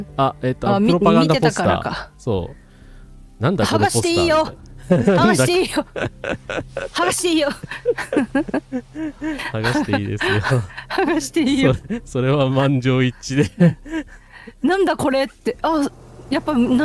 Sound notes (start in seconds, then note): 9.3 laughs